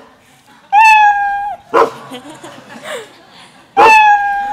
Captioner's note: animals calling